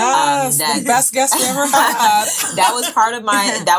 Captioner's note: laughing